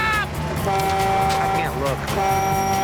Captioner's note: horn blares